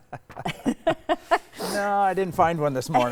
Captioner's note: laughing